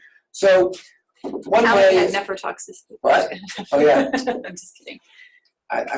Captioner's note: overlapping chatter